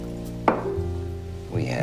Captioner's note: sets down bottle